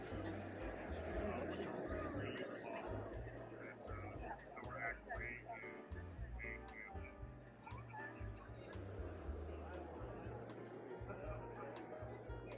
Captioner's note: crowd noise